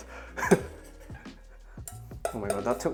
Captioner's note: chuckles